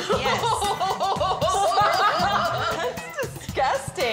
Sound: both chuckle

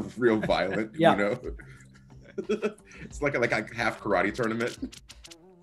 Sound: laugh

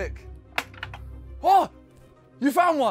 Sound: door clicks

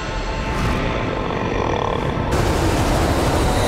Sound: grunting

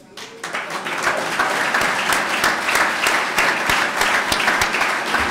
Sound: clapping

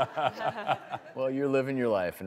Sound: laughs

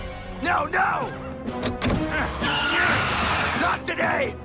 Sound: tires squeal

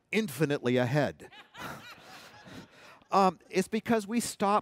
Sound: laughter

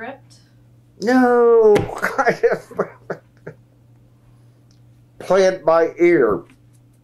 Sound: laughs

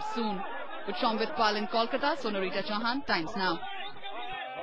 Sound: speaks in foreign language

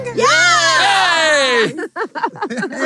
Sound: cheering; laughing

